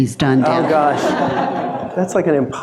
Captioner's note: audience laughing